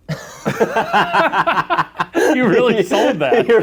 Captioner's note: laughter